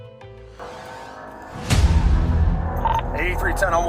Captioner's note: soft music; engine roaring